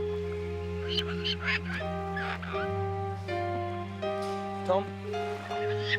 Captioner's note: Captain Flint squawking